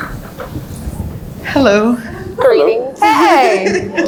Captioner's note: laughs